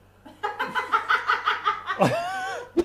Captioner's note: cackles